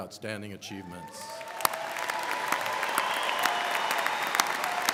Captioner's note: crowd clapping